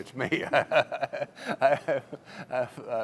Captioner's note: laughter